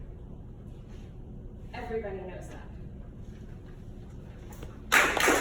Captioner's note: audience applauds